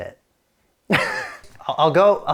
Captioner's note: laughs